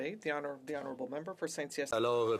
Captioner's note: speaking French